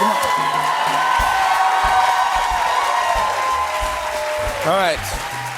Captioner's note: cheers and applause